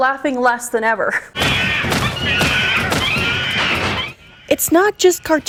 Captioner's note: cartoon Money Screeching